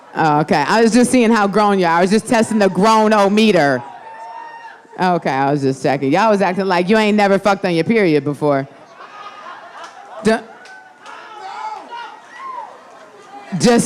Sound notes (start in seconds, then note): 4.7 audience laughing; 10.4 audience laughing